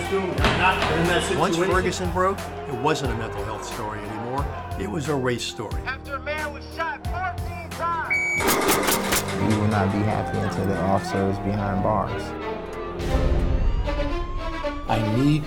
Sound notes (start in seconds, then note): 8.4 gun Shots; 8.4 nail Gun